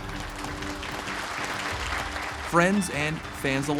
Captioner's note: applause